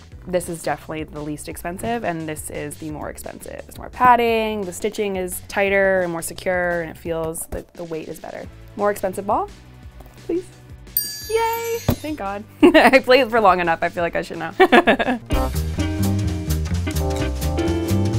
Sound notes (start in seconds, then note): 11.0 bell dings; 14.5 quirky music